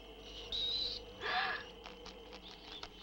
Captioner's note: gasps